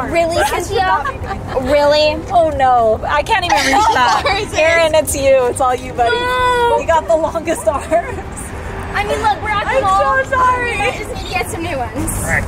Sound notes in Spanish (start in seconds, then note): 9.0 Ambos charlan